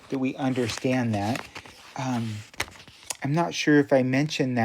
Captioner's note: object rustling